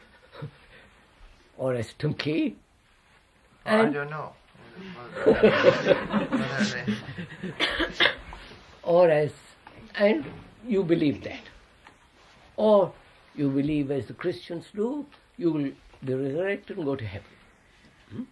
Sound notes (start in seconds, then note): 5.1 laughs